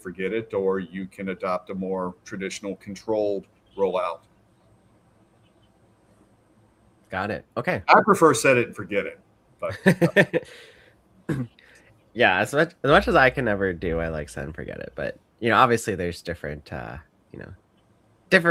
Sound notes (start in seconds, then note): 9.7 laughs